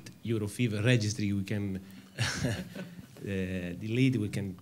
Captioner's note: chuckles